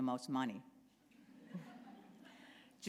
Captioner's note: laughter